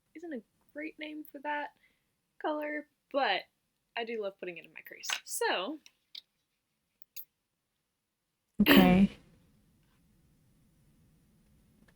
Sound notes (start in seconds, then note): 8.6 clears throat